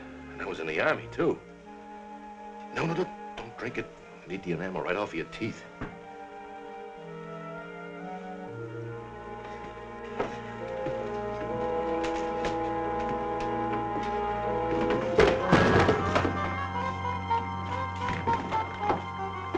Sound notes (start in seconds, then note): 11.0 dramatic music; 14.6 stool clatters